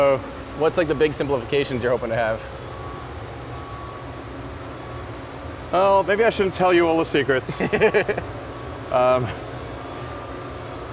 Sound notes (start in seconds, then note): 7.4 laughs